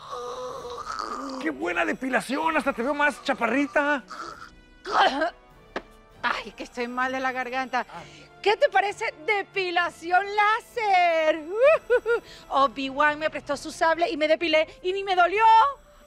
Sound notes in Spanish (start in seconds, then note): 4.9 Carraspea